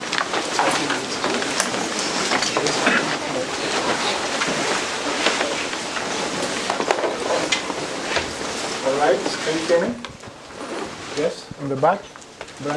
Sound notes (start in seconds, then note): 0.1 crowd murmurs